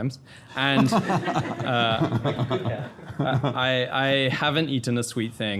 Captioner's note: everybody laughing